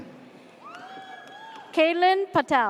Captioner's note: audience cheers